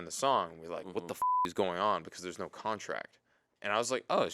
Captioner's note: beep